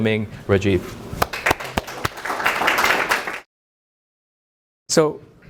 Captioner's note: applause